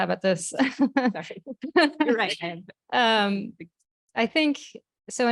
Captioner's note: laughing